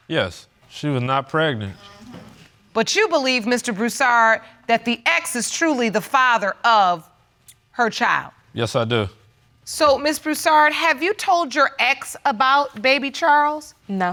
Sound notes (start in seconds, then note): none